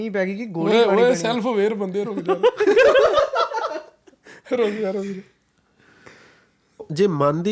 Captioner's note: laughter